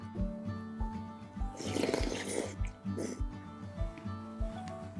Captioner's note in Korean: 후루룩